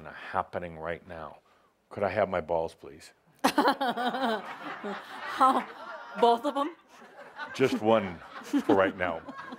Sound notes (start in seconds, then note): 3.4 laughter; 3.5 laughing